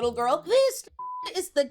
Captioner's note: beep